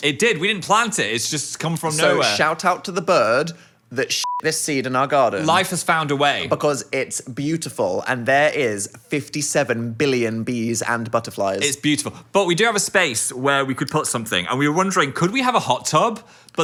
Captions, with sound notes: - It did, we didn't plant it. It's just come from nowhere. - So shout out to the bird that (beep) this seed in our garden. - Life has found a way. - Because it's beautiful and there is 57 billion bees and butterflies. - It's beautiful, but we do have a space where we could put something and we were wondering, could we have a hot tub?